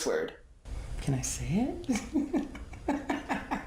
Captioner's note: laughs